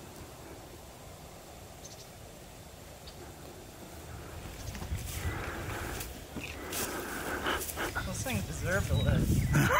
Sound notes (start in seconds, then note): 5.2 leaves rustling; 9.4 laughing hysterically